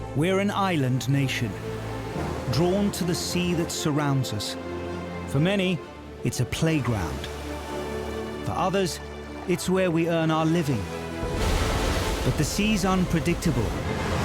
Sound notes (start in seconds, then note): 10.2 waves crashing